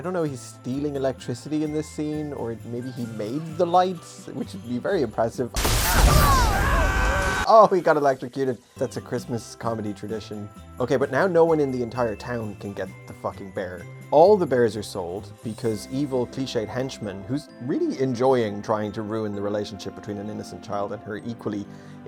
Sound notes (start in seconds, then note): 5.6 explosion; 5.8 screaming